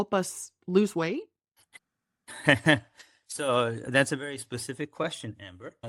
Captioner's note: laughs